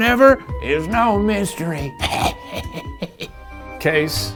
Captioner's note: chuckles